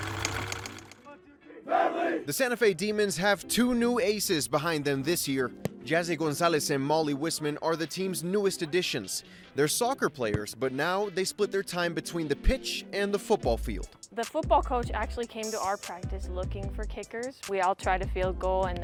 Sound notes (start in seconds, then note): 1.6 players cheer